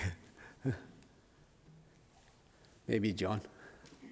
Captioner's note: laughs